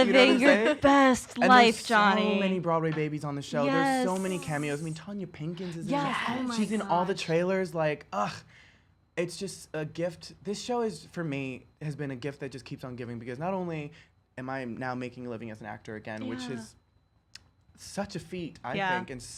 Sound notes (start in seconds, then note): 8.6 groans